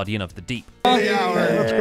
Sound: cheering

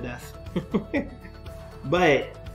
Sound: laughs

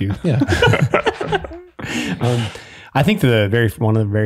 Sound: all laughing

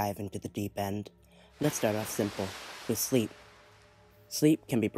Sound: splash

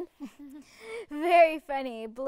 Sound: chuckles

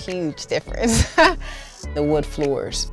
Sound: laughs

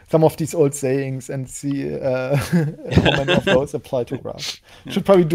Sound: laughs

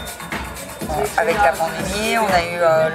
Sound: french spoken audio

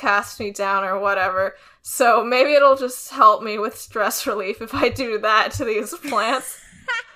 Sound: laughs

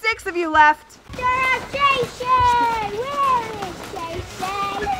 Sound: children shouting

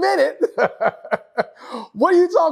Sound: laugh

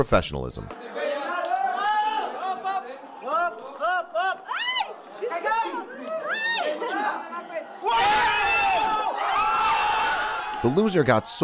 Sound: excited commotion

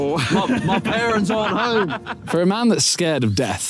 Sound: Tobi laughing

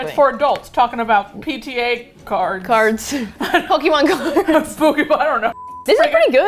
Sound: laughs; both laugh

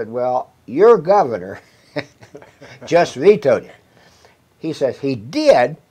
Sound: chuckles

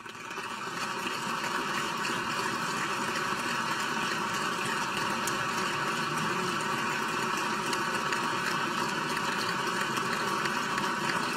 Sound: applause

